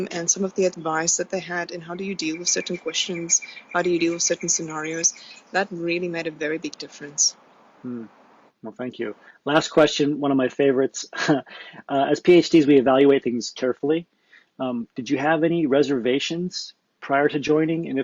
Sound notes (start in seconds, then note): 11.7 laughs